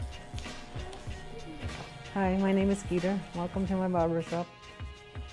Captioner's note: electric razor buzzes